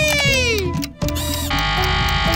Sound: buzzer ringing

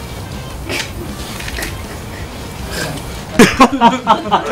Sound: Nam-gil bursts into laughter because of the director's joke

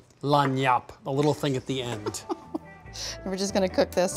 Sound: laughs

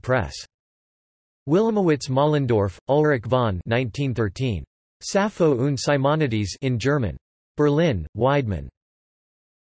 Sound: in German

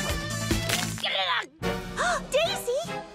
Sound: loud cracking

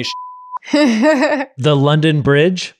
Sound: laughing

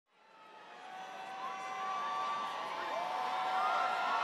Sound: crowd cheering

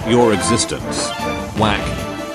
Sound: whack

